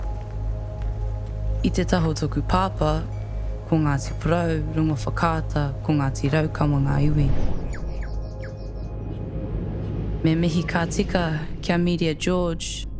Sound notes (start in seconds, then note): 7.6 birds warble